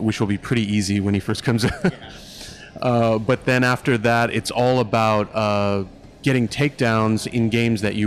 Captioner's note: laugh